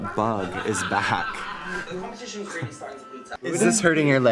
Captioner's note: superimposed fly noises